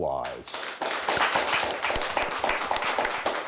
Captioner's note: clapping